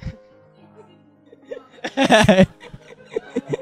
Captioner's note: laughter; laughter continues